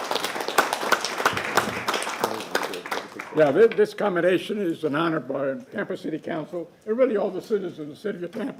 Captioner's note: applause